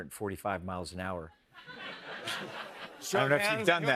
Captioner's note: laughter